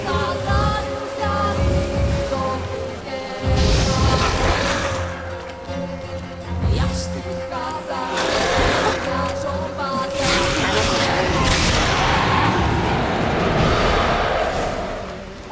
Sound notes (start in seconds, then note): 3.5 flames whoosh; 8.8 snarl; 13.5 raspy howl